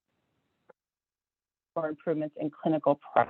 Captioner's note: audio cuts out